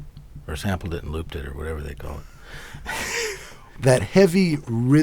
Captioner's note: laughs